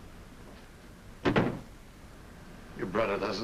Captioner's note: door closes